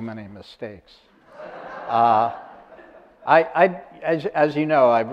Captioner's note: audience laughter